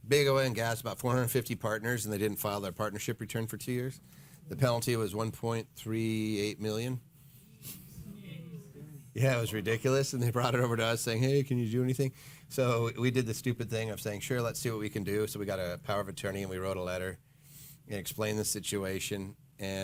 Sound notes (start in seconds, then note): 7.7 audience groaning